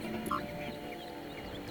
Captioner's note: birds chirping